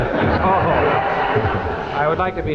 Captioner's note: audience laughing